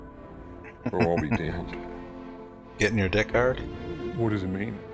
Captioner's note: chuckling